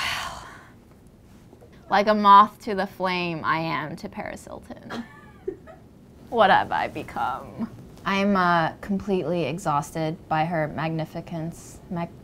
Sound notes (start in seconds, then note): 4.8 woman laughs